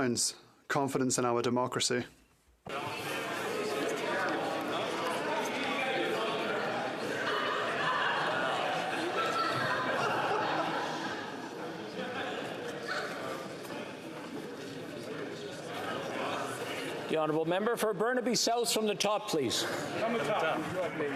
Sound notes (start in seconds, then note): 8.0 chatter